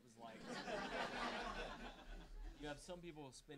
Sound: audience laughing

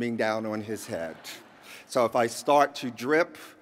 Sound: laughter

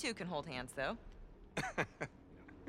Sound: laughs

